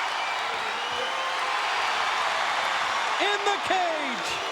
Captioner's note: crowd cheering